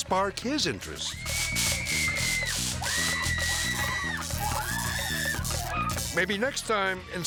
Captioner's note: person screaming; electricity buzzing